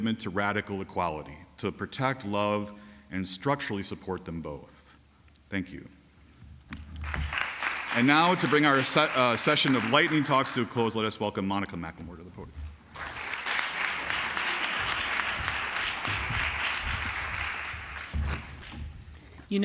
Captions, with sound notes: to radical equality, to protect, love, and structurally support them both. Thank you. [applause] And now, to bring our session of lightning talks to a close, let us Welcome Monica McLemore to the podium. [applause]